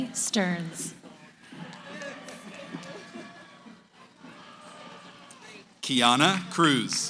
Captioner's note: cheering